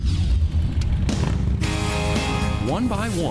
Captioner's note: engines revving; upbeat rock music